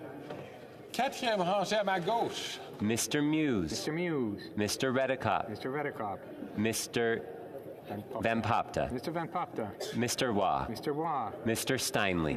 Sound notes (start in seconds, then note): 6.6 speaking French